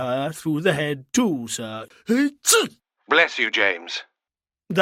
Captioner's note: he sneezes